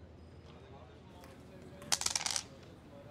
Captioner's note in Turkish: none